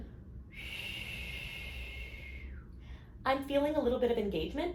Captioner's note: blowing